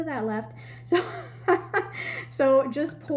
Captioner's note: laughing